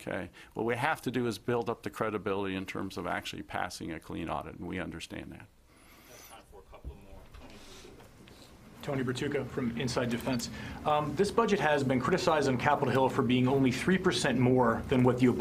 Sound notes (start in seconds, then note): 8.3 speaking off mic